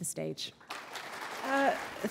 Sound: applause

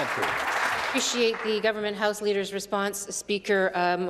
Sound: some Applause

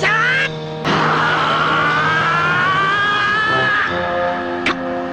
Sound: screams "in crescendo"

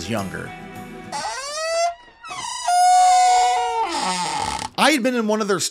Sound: door creaking

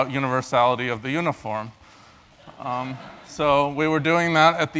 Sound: laugh

